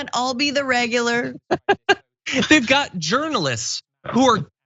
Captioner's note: laugh